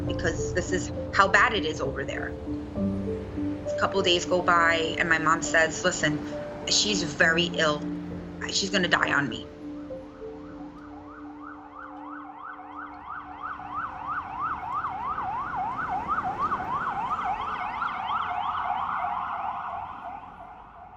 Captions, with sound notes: because this is how bad it is over there." Couple of days go by, and my mom says, "Listen, she's very ill, she's gonna die on me." (ambulance sirens blaring)